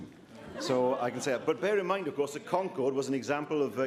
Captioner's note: laughter